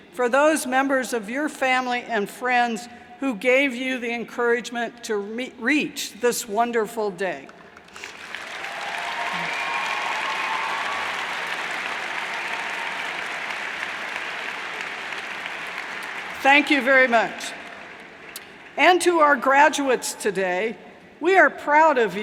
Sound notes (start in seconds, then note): 7.8 cheers and applauds